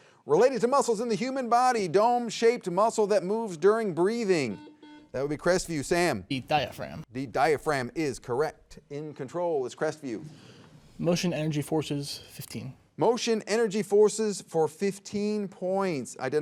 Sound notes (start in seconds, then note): 4.4 buzzer beeps